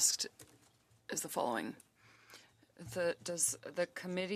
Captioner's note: speaking French